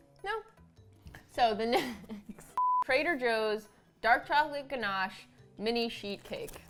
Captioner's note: laughs